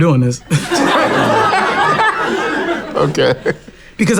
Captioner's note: laughs